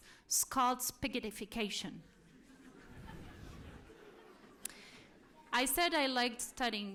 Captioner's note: laughter